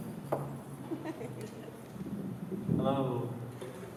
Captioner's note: laughter